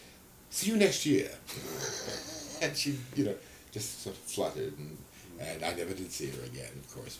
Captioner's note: laughs